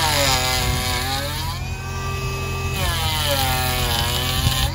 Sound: planer whirring

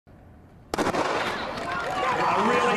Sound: starting pistol fires

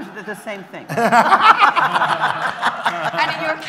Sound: more laughter

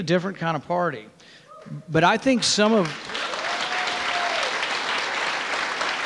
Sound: audience cheering

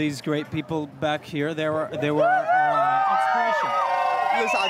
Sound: applause

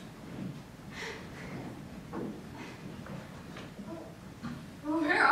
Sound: exhaling sharply

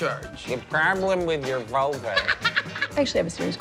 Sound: laughs

